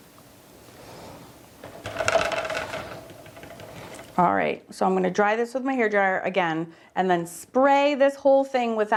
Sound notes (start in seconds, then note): 1.9 liquid splashing; 1.9 paint brush thudding